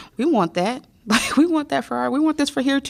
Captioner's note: laughter